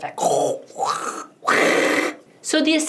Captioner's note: verbal sound effect